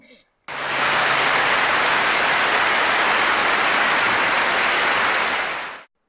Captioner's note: clapping